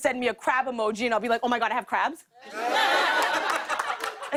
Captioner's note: laughter